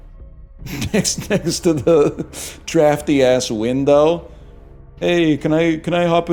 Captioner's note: cracks up